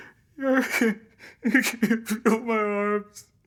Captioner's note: Ridge crying